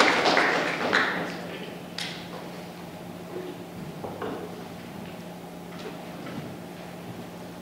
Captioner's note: applause